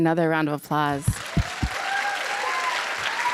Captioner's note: applause and cheering